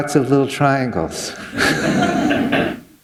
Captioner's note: laughter